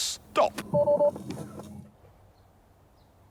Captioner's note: beeps